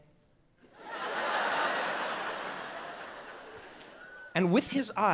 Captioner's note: audience laughs